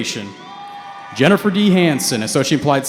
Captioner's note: cheering